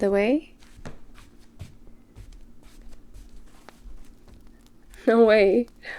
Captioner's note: footsteps